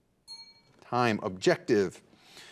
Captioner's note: bell dings